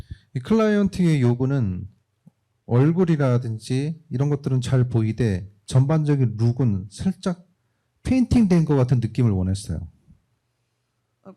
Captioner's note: speaking korean